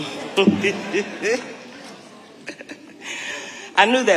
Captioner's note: audience laughing; laughing